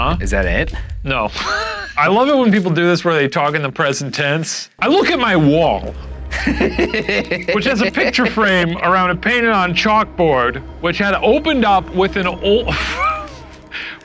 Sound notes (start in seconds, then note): 1.3 chuckles; 6.3 laughing; 12.7 laughs